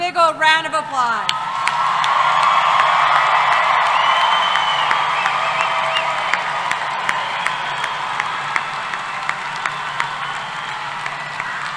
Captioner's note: applause and Cheering